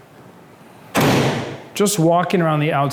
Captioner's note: metal clanging